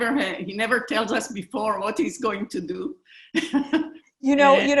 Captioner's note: chuckling